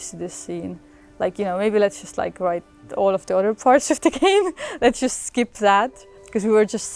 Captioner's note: laughs